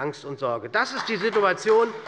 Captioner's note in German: Beifall bei Abgeordneten der SPD